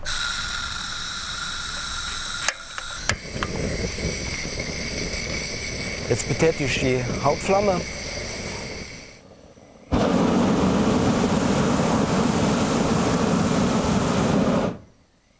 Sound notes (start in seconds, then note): 0.2 hissing; 2.9 roaring; 9.8 roaring